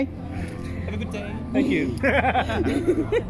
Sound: laugh

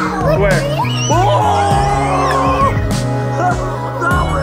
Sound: all screaming

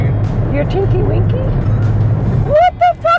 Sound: giggles

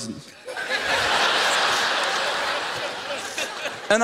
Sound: laughter

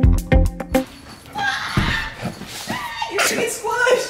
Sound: screams

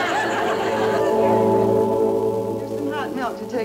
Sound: crowd laughing

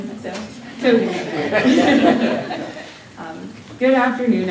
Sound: laughter

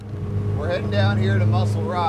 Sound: boat engine roaring

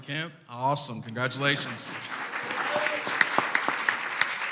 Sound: clapping

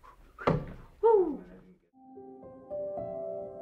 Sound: bangs; melodious piano music

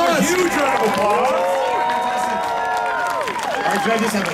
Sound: audience cheering

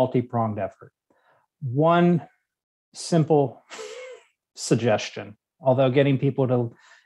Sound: chuckles

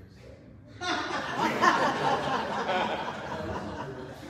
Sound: audience laughs

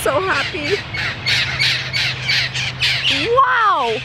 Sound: birds squawking

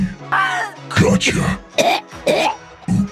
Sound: Junkrat coughs and gasps for air

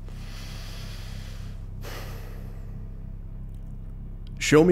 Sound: sighing

